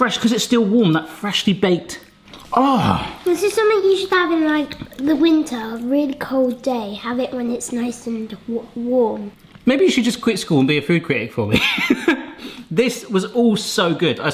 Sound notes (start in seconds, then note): 2.5 moans; 11.5 chuckles